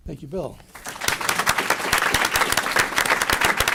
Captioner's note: applause